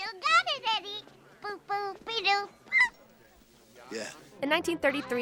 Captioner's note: squeals